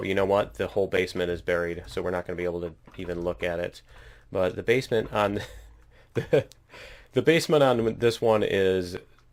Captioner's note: laughs